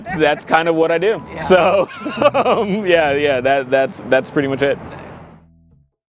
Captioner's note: laughs